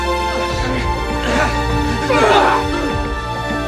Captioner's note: grunting